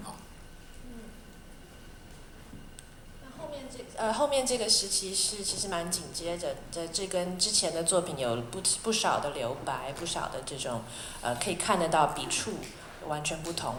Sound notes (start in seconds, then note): 4.3 Mandarin